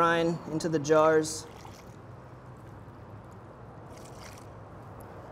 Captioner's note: liquid splashes